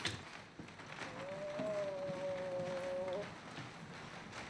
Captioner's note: moaning